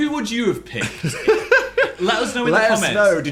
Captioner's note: Dan laughing